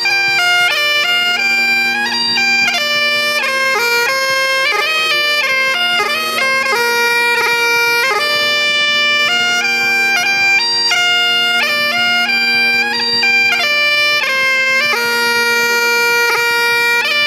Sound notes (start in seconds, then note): none